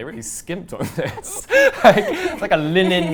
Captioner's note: both laughing